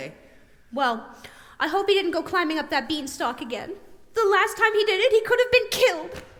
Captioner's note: none